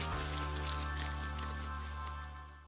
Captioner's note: sheep chewing